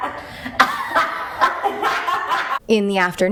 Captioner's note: they laugh